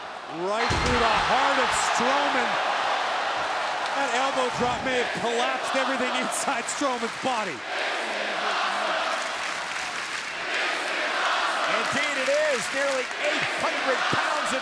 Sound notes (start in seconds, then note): 8.1 crowd chants "This is awesome"